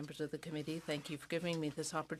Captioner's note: speaking in french